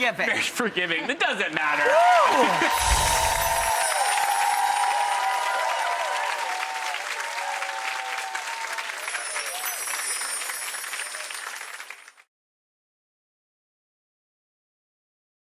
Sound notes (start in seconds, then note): 2.6 audience cheers